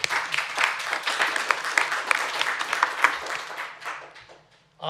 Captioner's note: applause